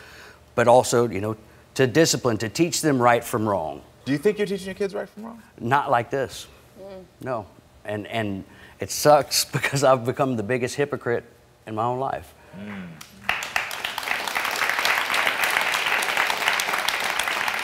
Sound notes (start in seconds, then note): 12.6 audience clapping